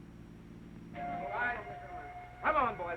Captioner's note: ship whistle blows